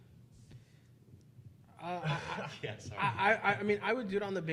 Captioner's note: laughing